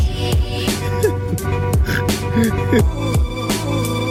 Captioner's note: giggling; lofi music